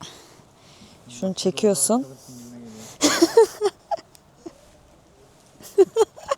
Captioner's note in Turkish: kahkaha